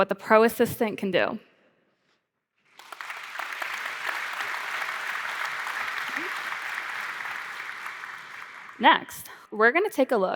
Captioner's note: applause